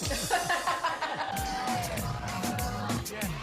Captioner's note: laughter